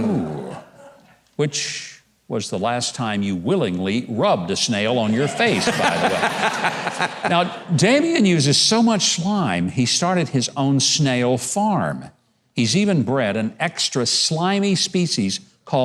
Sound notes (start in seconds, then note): 5.2 audience laughing